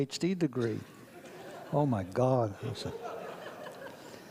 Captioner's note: audience laughs